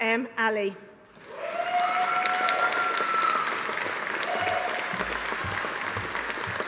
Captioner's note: audience applauding; audience cheering